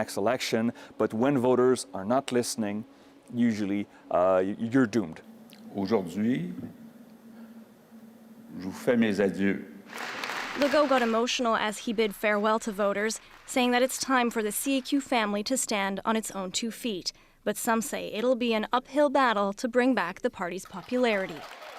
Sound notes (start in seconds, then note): 8.9 speaking French